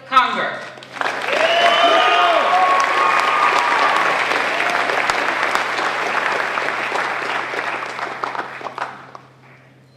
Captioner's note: applause